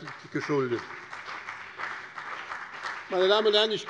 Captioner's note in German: Beifall bei dem BÜNDNIS 90/DIE GRÜNEN und der FDP